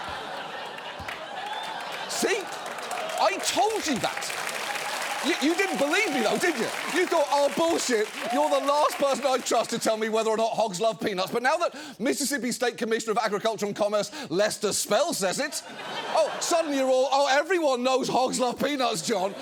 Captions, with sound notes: See? I told you that. (STUDIO AUDIENCE APPLAUDING) You-- You didn't believe me, though, did you? You thought, "Oh, bullshit, you're the last person I trust to tell me whether or not hogs love peanuts." But now that Mississippi State Commissioner of Agriculture and Commerce Lester Spell says it, oh, suddenly you're all, "Oh, everyone knows hogs love peanuts, John.